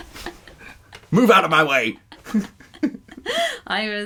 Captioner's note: laughter